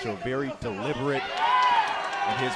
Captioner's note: crowd chatter